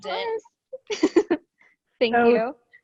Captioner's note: laughs